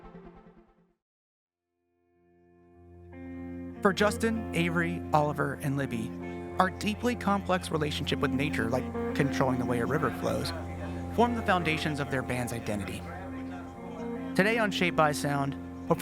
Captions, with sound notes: [light rock music] For Justin, Avery, Oliver, and Libby, our deeply complex relationship with nature, [people chattering] like controlling the way a river flows, form the foundations of their band's identity. Today on "Shaped by Sound,"